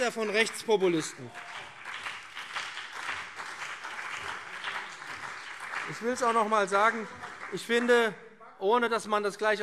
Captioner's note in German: Beifall BÜNDNIS 90/DIE GRÜNEN und CDU - Zurufe AfD